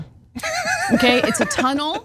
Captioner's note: laugh